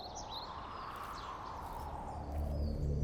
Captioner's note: wind blowing